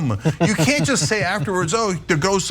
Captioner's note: laugh